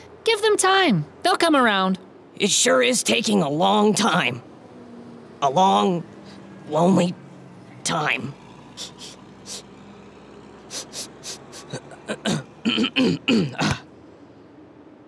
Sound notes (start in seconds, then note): 8.5 Burt sniffs; 11.6 Burt clears his throat